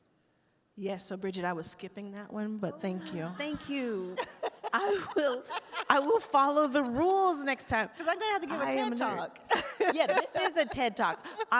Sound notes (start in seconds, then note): 4.1 chuckles; 4.2 laughs